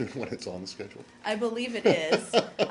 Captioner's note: laughter